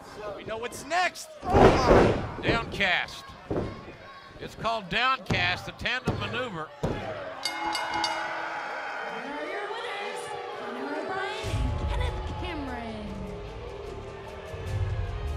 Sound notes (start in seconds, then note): 7.4 bell ringing; 8.0 crowd cheering